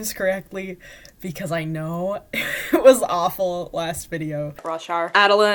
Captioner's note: laughing